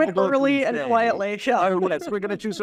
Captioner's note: laugh